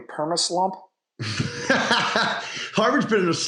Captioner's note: laughter